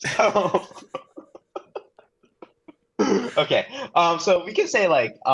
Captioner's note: laughter